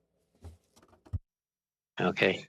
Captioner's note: speaking French